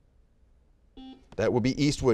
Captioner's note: buzzer beeping